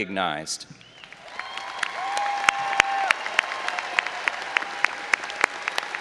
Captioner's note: all applauding and cheering